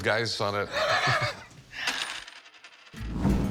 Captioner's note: laughs